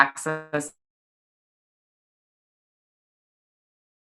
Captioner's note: audio drops out